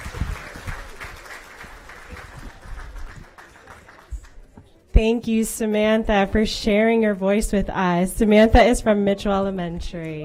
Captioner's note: cheering and applause